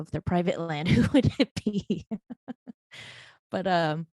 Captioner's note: laughing